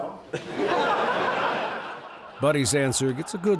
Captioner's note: audience laughing